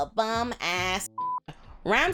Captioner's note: beep